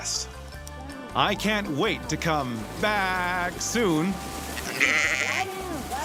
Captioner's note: voiceover; sheep bleating